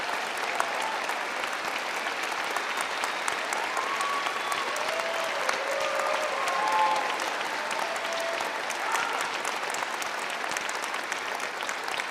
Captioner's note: applause